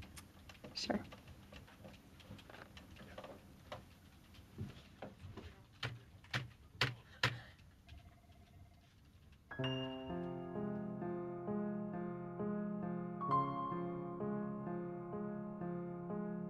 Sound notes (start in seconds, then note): 5.7 keyboard clacking; 9.4 haunting and expressive piano